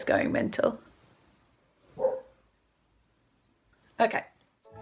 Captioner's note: woof